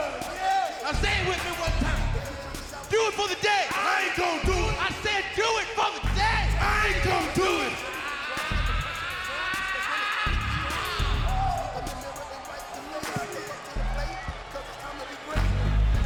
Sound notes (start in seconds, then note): 8.2 Xavier yells; 11.8 music continues